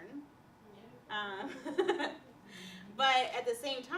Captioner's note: laughter